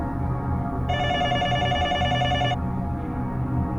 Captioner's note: telephone ringing